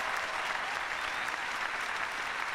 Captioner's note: cheers and applause